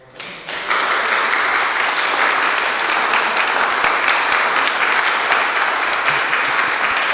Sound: applause

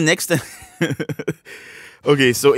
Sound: laughs at his own joke

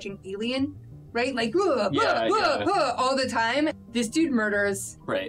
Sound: grunts

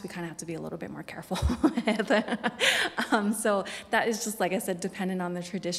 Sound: laughs

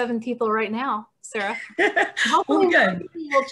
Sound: laughter

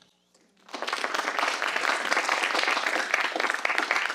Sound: audience applauds

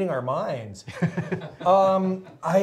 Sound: laughing

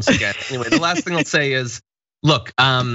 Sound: laugh

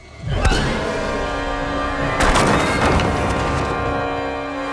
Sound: grunts

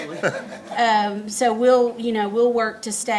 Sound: laughs

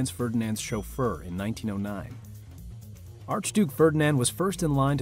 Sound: none

